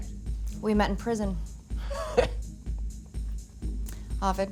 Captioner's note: laughs